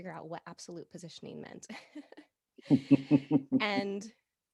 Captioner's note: both laughing